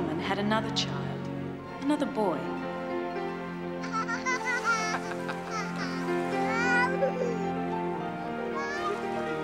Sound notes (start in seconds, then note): 4.4 giggling